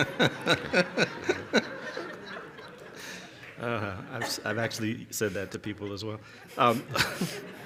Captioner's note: laughter